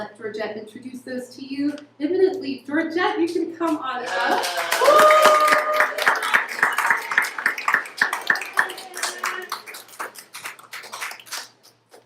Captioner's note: applause